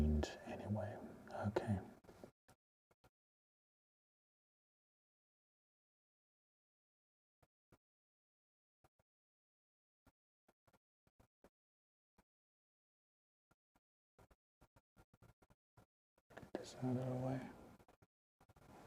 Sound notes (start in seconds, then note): 2.6 silence